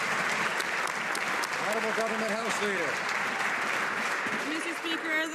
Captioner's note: some Applause